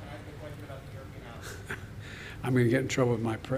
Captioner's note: laughs